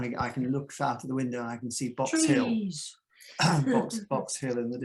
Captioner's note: chuckles